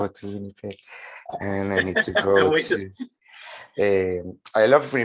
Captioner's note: laughs